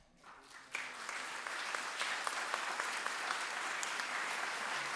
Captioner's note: audience applauds